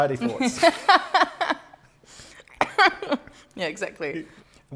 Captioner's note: laughter